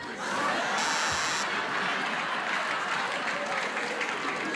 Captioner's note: laughter